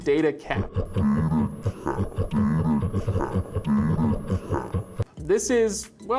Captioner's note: deep slow motion voice